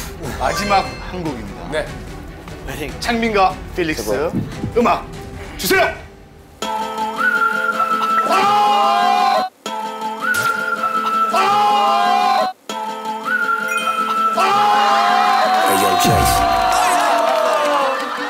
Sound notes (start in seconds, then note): 4.2 heart throbbing